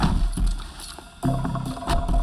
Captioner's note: none